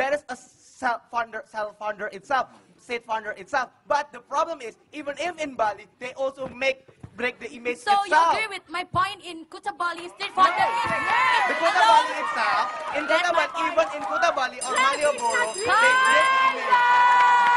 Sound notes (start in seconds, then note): 14.6 buzzer rings